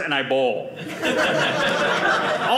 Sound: audience laughing

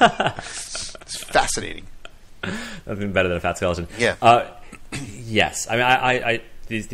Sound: laughs

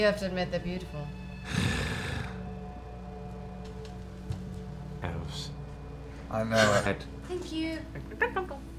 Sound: sighs

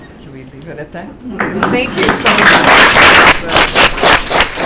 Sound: applause

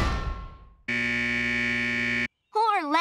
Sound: buzzing

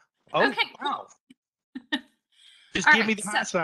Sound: laughing

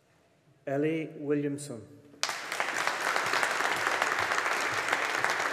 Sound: audience applauding

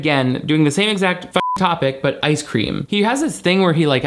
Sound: beep

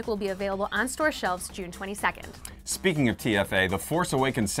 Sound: none

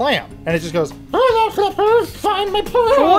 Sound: high muffled voice

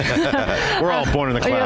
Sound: both laughing

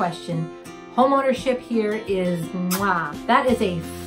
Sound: kissing sound

